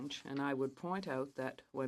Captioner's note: speaking French